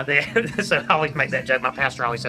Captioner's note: laughs